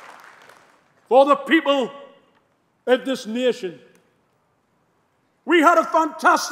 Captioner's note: applause